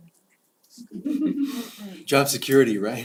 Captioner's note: laugh